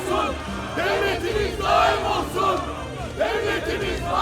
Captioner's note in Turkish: Hep bir ağızdan